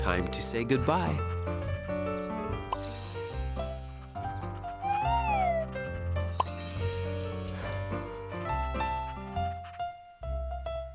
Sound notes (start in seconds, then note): 2.8 sparkling sound